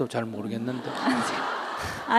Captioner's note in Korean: 청중웃음